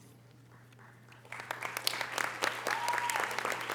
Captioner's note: audience applause